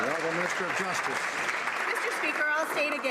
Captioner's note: some Applause